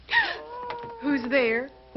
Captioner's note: Priscilla gasps